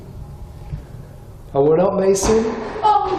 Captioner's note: door bangs loudly; shouts